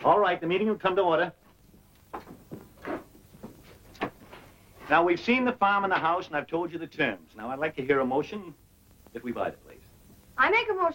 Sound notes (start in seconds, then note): none